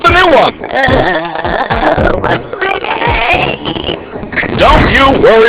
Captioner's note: groaning